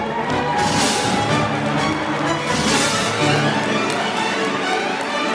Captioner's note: applause